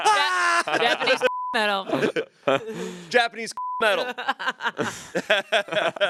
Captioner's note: beep